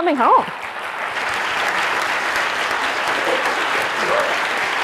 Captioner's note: audience clapping